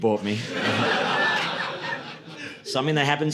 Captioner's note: audience laughing